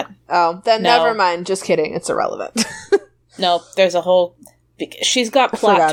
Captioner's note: laughs